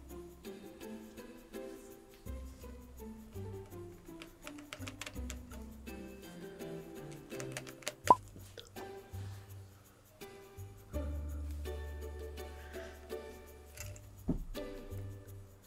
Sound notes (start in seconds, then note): 4.3 lid squeaks; 13.7 coins rattle